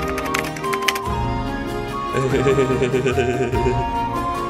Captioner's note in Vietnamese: khúc khích